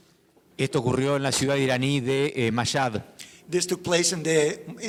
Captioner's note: speaking in foreign language